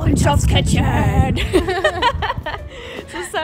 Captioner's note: laughter